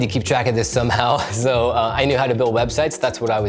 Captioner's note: chuckles